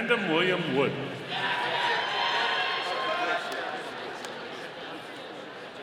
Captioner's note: audience cheering